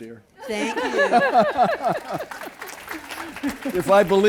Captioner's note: laughter